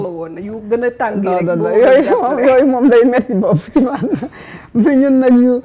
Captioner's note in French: rires